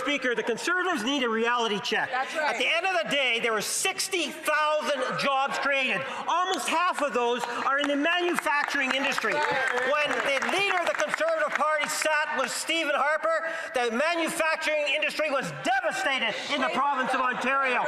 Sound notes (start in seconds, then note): 12.4 applause